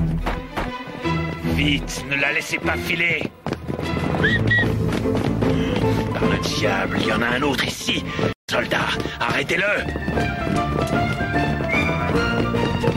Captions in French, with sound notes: Vite, ne la laissez pas filer! (sifflement) Par le diable, il y en a un autre ici! Soldats, arrêtez-le!